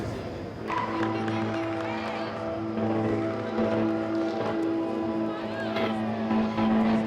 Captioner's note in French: musique palpitante; acclamations de la foule